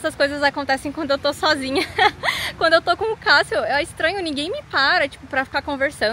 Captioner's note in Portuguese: risadas